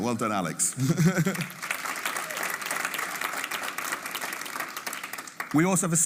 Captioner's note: audience applauding